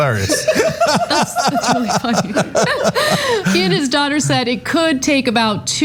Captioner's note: laugh